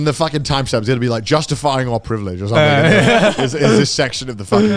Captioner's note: all laughing